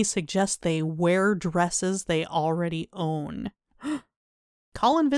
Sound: gasp

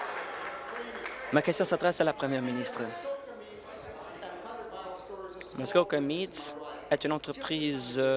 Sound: applause

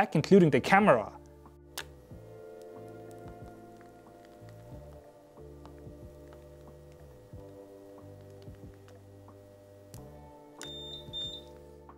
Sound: sizzle Sounds

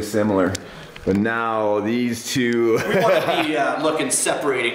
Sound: laughs

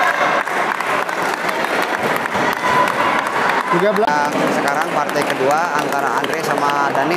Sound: applause

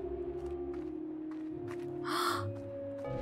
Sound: gasp

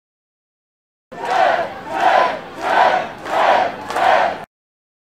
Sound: chanting

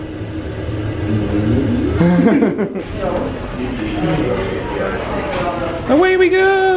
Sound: laughs

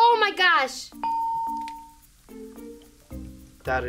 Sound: bell rings

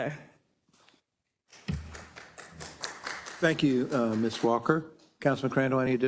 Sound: applause

